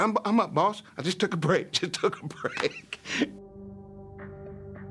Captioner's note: laughing